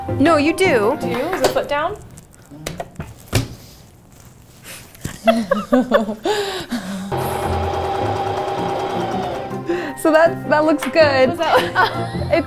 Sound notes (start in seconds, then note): 5.0 everyone laughs; 7.1 sewing machine whirring